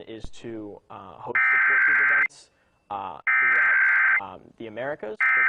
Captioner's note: emergency alert system drowns out speaker